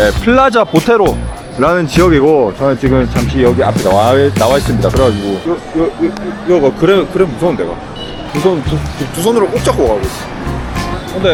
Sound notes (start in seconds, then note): 8.2 stammering